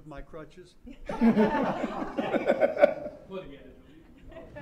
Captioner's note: laughter